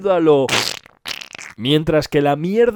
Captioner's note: sound of stepping on poo